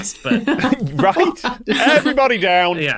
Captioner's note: laughs